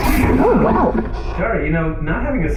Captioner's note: squelching sounds of helmet being put on